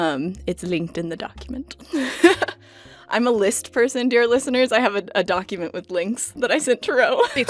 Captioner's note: laughs